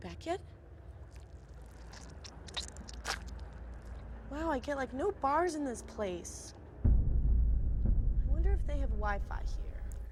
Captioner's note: squelching